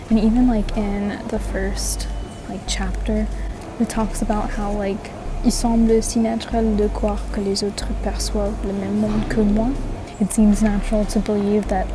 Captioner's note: french